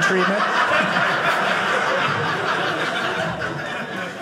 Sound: audience laughing

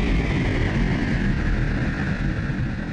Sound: spaceship drone

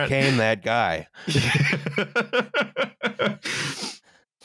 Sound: laughs

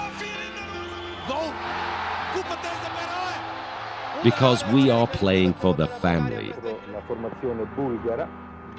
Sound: applause

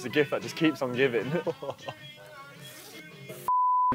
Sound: laughing

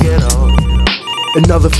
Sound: phone ringing

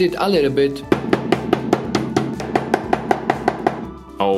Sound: banging

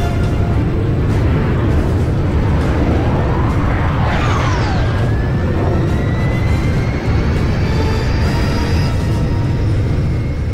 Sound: engine noices, music; engine noices

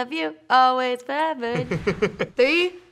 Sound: Noah laughs

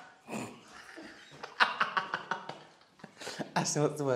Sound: laughing

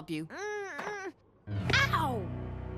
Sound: Jackie groans

